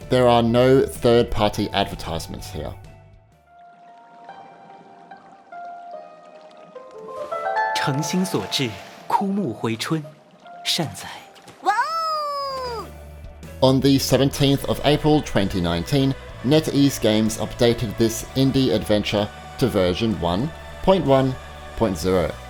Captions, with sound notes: There are no third-party advertisements here. (playful music) (speaking in foreign language) On the 17th April 2019, NetEase Games updated this indie-adventure to version 1.1.0.